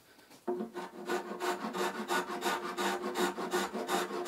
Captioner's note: grinding noise